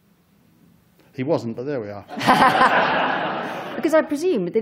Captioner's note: laughter